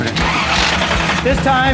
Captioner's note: engine fires up; engine idles